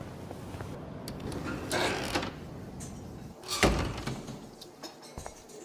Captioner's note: door Opens and Closes